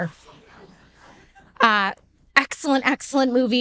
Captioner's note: audience laughing